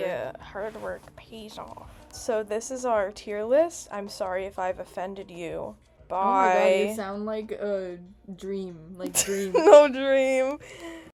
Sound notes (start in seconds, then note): 0.4 terrible Torb impression; 9.6 wheeze